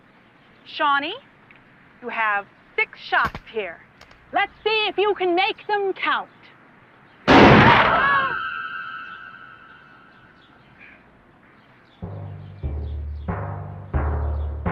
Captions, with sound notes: Now, Shawnee, you have six shots here. Let's see if you can make them count. (gunshot) (shouting)